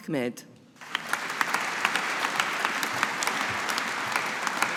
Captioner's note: audience applauding